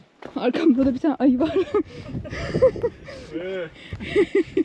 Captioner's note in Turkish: kahkaha